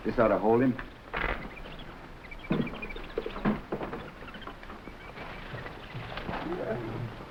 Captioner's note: animals chattering; gorilla grunting